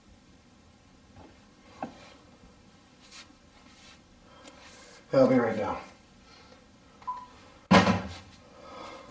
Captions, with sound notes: I'll be right down. [Phone beep] [Phone clanking]